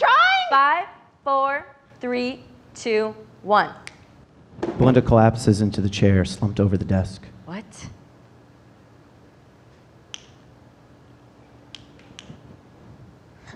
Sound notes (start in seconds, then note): 3.8 fingers snapping; 10.1 fingers snapping